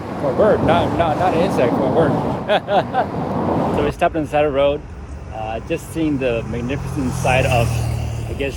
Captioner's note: laughter